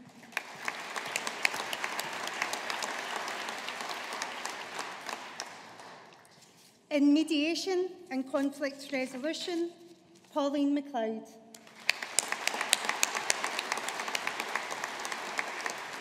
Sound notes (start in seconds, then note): 0.1 audience applauding; 11.6 audience applauding